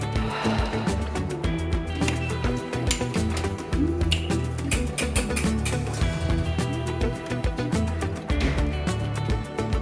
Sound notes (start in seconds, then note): 4.7 turnstyle clanking in the background